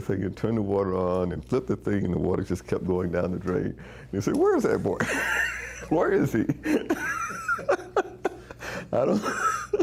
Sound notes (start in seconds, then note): 6.5 both laughing